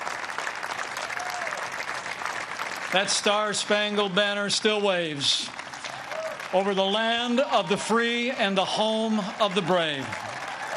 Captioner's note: applause